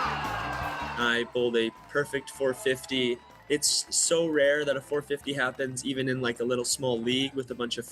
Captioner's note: cheers and Applause